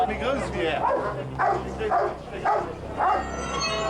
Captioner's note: dog barking